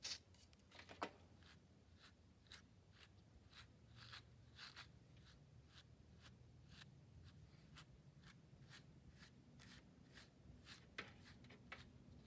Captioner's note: spray noises; brush noises